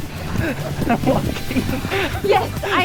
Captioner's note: laughs